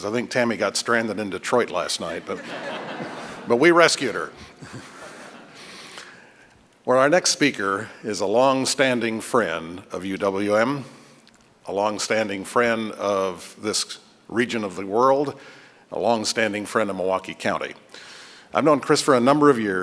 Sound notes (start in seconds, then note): 4.0 laughter